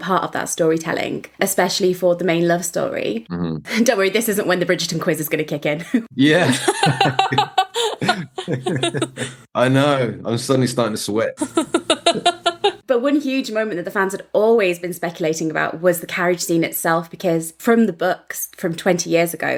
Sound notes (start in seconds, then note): 6.2 both laughing; 11.4 laughing